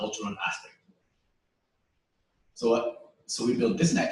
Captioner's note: pause